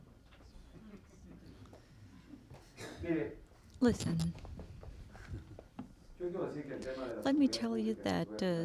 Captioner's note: through translator